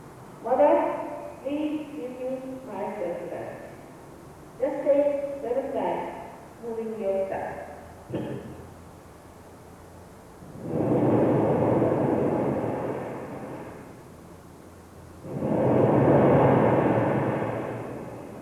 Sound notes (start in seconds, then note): 10.5 shri mataji blows into the microphone